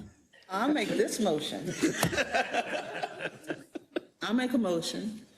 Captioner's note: laugh; laugh